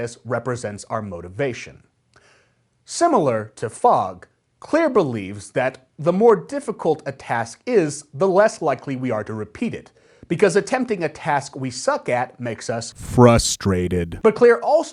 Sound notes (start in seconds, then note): 13.4 frustrated